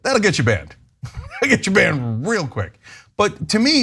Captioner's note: laugh